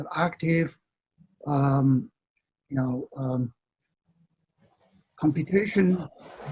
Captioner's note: speaks faintly